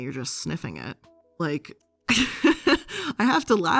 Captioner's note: laughs